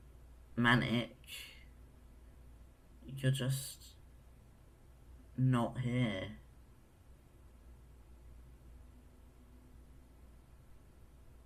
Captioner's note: a pause